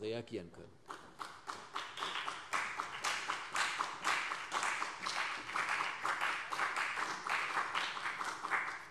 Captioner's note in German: Beifall CDU und vereinzelt BÜNDNIS 90/DIE GRÜNEN